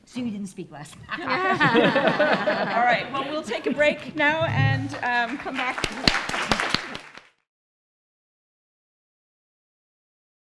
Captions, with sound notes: See, you didn't speak last. (laughing) - Alright, well we'll take a break now and come back. (applause)